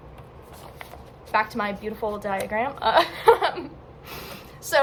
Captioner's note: laughs; laughing